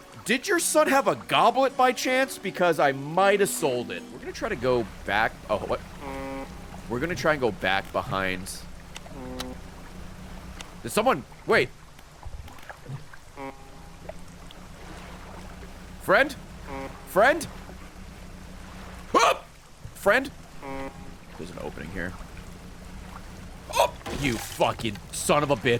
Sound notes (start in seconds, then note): 4.3 foghorn; 10.5 distant foghorn; 15.2 honks; 19.9 honks